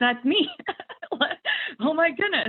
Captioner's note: laughing